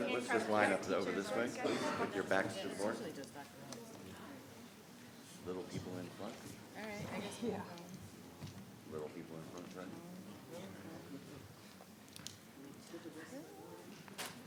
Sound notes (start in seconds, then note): 3.6 speaking faintly; 11.3 speaking faintly